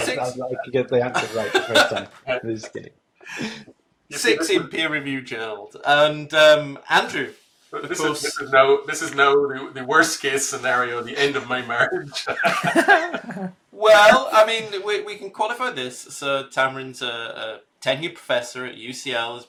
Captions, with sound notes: I like to get the answer right the first time. I'm just kidding. - Six in peer review, Joao. And Andrew. - This is now the worst case scenario, the end of my marriage. (laughs) - Well, I mean, we can qualify this. So Tamrin's a tenured professor at UCL.